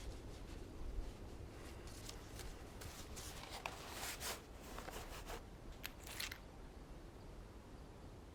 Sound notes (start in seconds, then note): 2.4 rustling